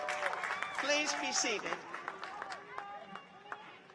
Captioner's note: cheers and applause